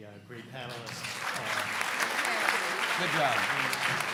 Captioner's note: audience applauding